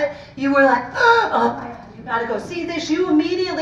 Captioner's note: gasps